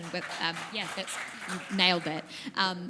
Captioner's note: applause